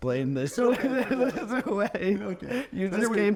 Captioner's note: chuckling